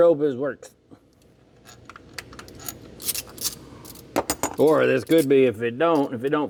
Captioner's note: metal Clanking